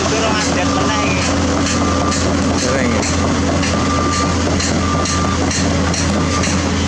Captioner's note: engine Roar